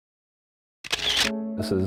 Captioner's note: sound of camera clicking